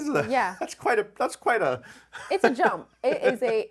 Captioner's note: laughs